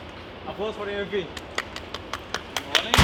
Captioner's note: scattered applause